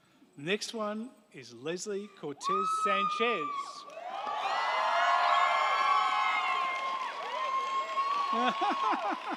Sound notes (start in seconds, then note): 2.4 crowd cheering; 3.8 crowd clapping